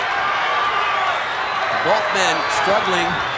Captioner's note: audience cheering